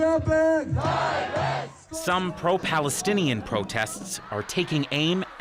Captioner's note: chanting